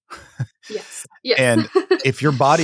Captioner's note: chuckles